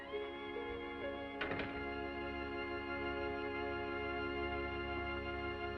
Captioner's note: gentle music; door latches